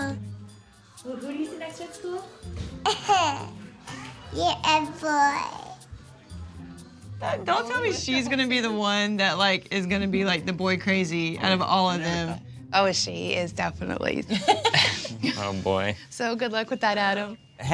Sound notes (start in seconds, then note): 2.9 laughs; 14.3 laughs